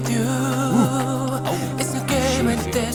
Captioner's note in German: Lachen